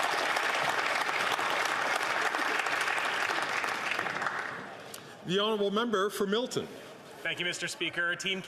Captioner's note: some Applause